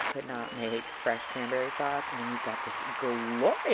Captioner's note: crowd cheering